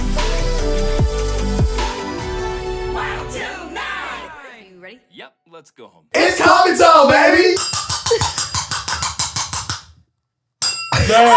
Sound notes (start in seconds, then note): 6.1 they shout; 7.5 tins clanging; 10.6 glass rim pinging